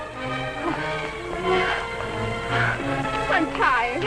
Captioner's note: Connie panting